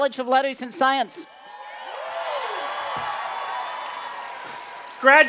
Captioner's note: cheering and Applause